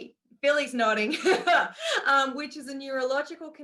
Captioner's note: laughs